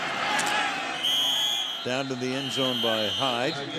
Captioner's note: whistle